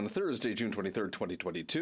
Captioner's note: speaking FRENCH